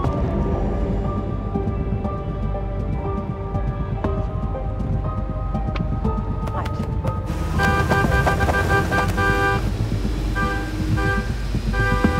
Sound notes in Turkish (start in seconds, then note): 7.4 Korna çalıyor